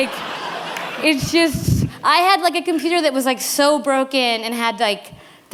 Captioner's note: laughter